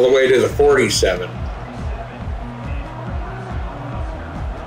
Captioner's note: crowd cheering